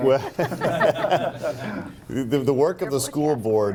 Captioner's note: laughing